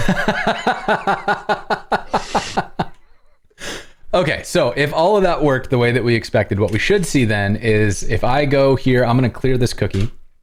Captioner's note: laughter